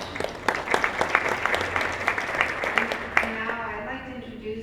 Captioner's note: applause